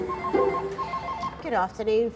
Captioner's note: phone rings